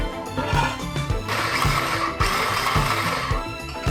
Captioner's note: rumbling sound; upbeat music